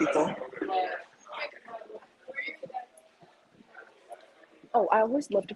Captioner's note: students conversing